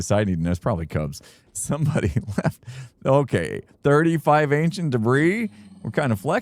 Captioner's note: chuckling